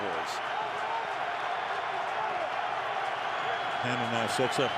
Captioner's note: crowd cheering